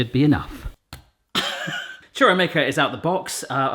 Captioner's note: he laughs